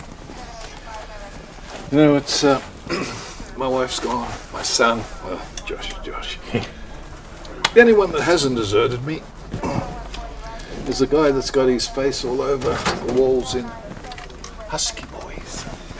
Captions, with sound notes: (radio chatter) - You know it's a, (clears throat) my wife's gone, my son, well Josh, Josh, (chuckles) anyone that hasn't deserted me, (grunts) is a guy that's got his face all over the walls in Husky boys.